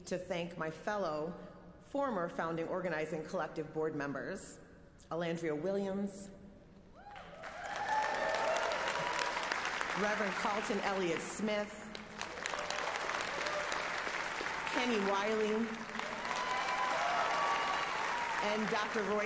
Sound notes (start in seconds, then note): 12.4 applause